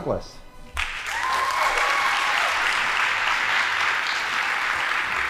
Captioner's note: audience applauding